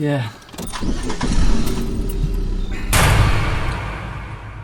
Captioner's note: car engine revs; dramatic music